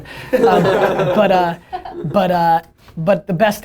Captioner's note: laughter